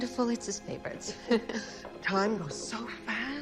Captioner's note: chuckckling